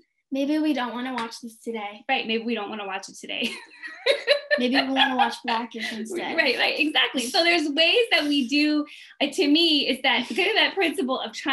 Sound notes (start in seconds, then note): 3.8 laughing